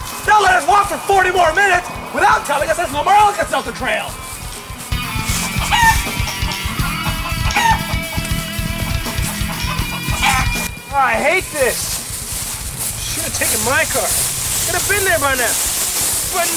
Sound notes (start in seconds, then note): 4.0 chicken clucking; 4.5 upbeat metal music